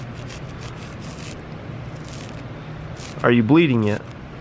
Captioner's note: knife scratches